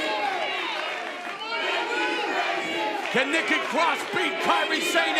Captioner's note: fans chanting